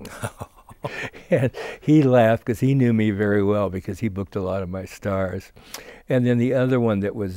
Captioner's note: laughing